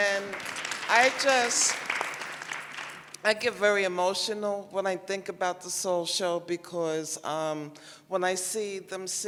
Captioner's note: applause